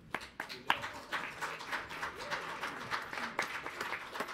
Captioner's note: everyone applauding